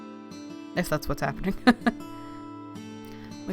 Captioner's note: laughs